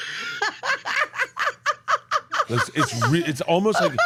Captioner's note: laughs